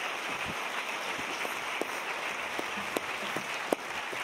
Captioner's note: applause